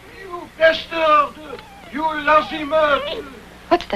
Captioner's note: dog wining